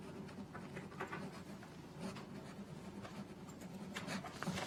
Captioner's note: pen scribbling